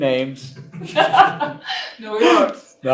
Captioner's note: laughs